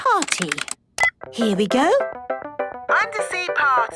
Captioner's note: beep